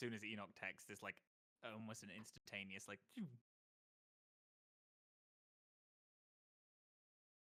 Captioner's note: imitates whooshing